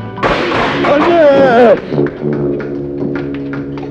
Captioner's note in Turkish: Devrilen eşyanın gürültüsü